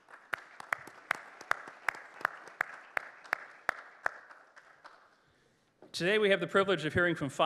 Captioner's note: applause